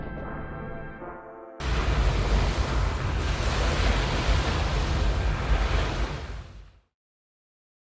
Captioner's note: the waves of the ship's wake crash against each other